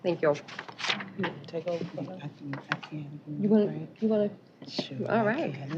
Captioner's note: indistinct chatter